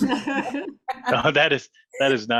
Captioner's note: laughter